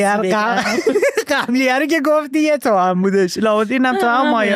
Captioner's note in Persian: خنده